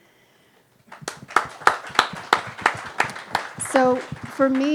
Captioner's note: audience claps